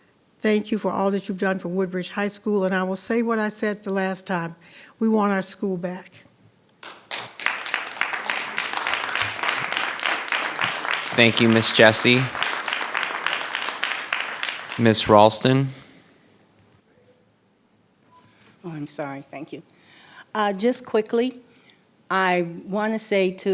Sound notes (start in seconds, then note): 7.1 audience applauding